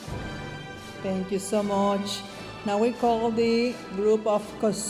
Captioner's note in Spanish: hablando en inglés